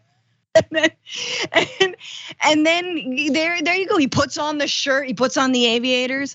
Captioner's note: laugh